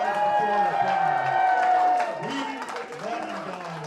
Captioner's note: crowd cheering